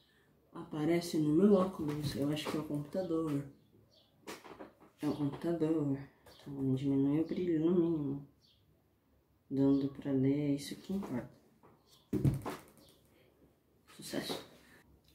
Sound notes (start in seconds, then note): 0.4 singing; 4.8 singing; 12.1 computer hitting the table